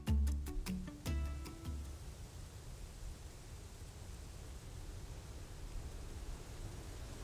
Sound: quiet sound of rustling leaves

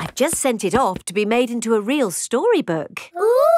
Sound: none

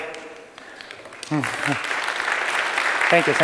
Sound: applause

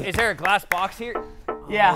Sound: ding ding

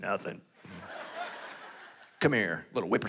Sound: congregation laughing

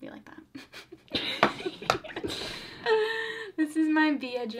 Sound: both laugh

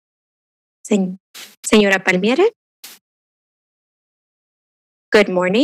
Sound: speaking foreign language

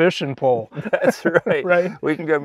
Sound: laughs

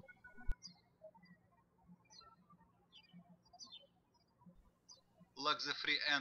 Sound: birds chirping

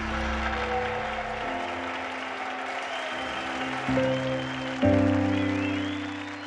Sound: audience cheering; audience clapping

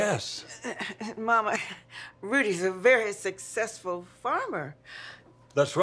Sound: chuckles nervously

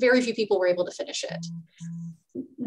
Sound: phone vibrating

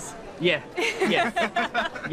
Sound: all laugh

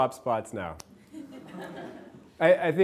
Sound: class laughing

